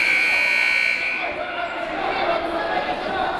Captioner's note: timer buzzes